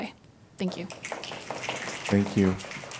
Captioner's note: applause